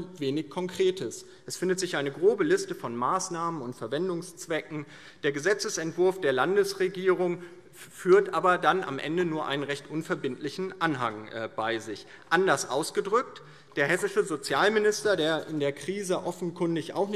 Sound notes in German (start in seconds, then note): none